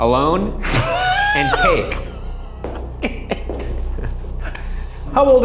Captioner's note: laughs